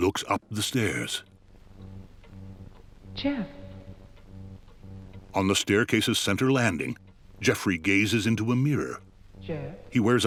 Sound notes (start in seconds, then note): 4.2 ticking continues